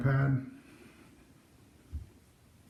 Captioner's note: extremely quiet